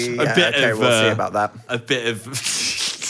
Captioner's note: overlapping chatter